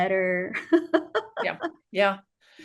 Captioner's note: laughter